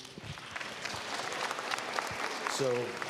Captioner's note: applause